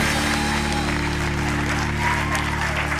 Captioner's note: applause continues